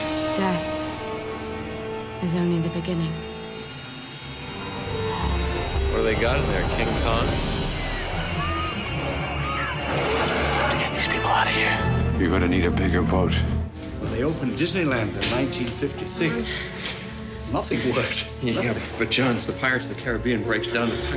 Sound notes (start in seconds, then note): 7.9 screaming; 10.0 roaring